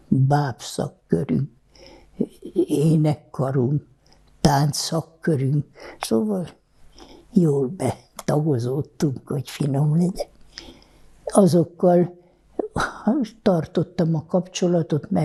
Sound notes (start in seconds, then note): 8.0 laughing